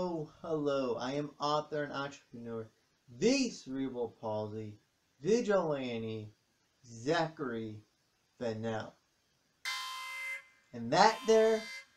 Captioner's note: alarm sounds